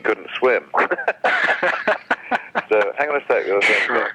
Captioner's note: laughs